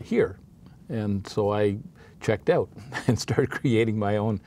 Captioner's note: chuckles